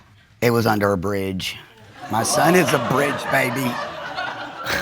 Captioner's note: audience laughing